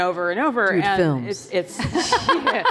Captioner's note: laughter